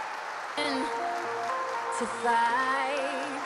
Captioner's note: applause